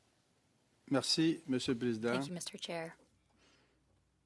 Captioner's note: speaking French